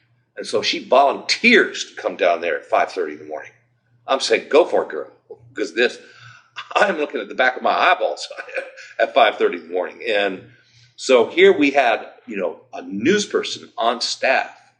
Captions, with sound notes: And so she VOLUNTEEERS to come down there at 5:30 in the morning. I'm saying "Go for it girl." Cause I'm looking at the back of my eyeballs [chuckles] at 5:30 in the morning. And So here we had, you know, a newsperson on staff